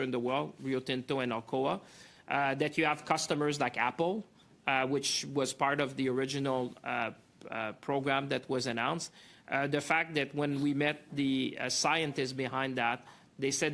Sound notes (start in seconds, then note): 8.1 speaking French